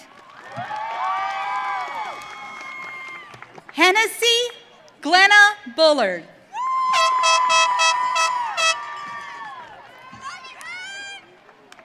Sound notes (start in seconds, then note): 0.2 audience cheering; 6.6 audience cheering